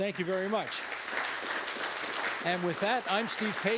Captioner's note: all applauding